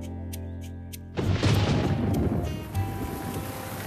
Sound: thunder Booming; rain Pattering

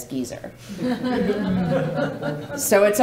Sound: laughing

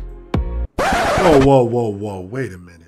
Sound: disc screeches

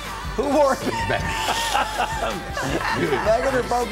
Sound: guys laughing

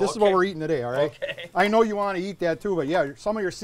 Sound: laughs

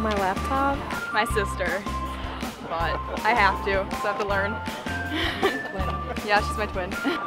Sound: laughs

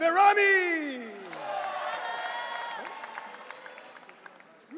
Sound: audience cheering

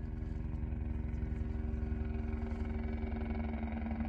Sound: helicopter coming

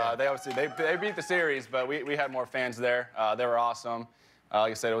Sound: applause

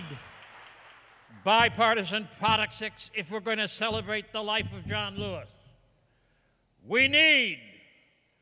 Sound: applause

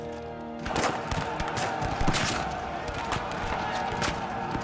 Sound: yelling

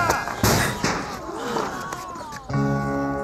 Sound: ball smacking loudly; metal clanging; crowd gasping

